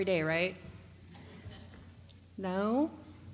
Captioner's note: laughter